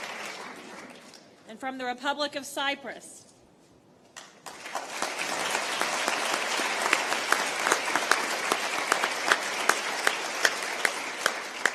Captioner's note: applause